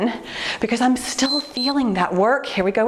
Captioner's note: timer beeps